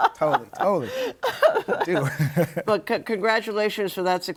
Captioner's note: laughs